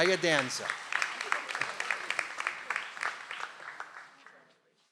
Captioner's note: audience applauds